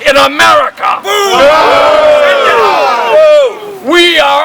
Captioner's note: crowd